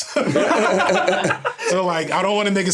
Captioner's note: everyone laughing